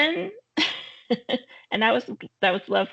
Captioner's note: chuckling